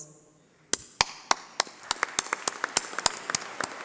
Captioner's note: applause